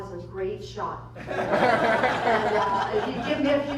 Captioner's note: laughter